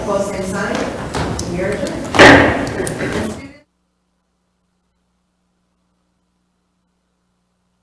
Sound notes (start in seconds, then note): 2.4 gavel taps